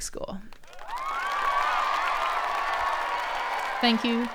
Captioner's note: crowd cheering